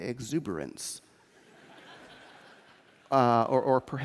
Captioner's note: laughter